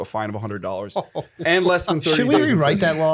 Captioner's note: chuckle